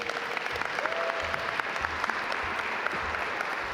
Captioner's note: audience applaud